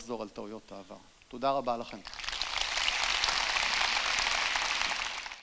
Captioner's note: applause